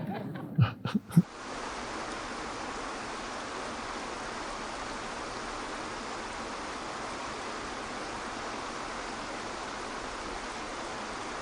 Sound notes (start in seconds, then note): 0.0 Eckhart laughs; 0.0 audience laughs; 2.1 waterfall rushes